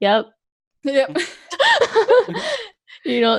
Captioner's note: laughs